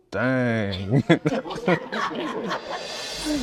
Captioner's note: laughter